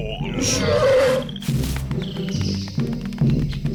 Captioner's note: roars